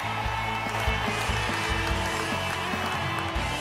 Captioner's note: crowd cheers